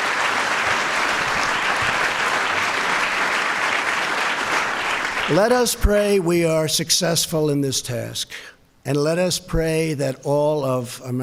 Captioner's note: applause